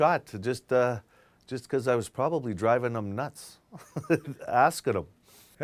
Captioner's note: laughs